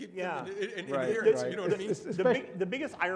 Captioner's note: chuckles